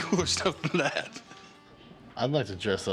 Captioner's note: laughs